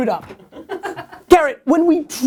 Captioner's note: laughter